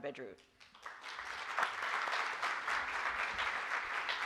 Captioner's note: applause